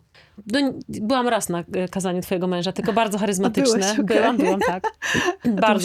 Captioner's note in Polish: śmiech